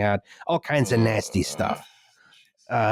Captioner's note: moans; nearly silent